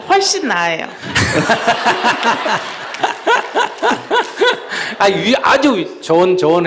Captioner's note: Sunim/Audience Laughter